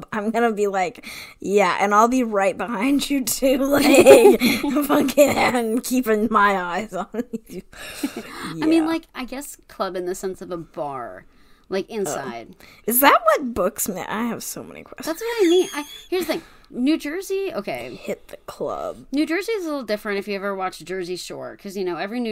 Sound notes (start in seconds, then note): 15.2 wheeze laughs